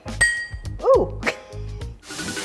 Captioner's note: glass clinks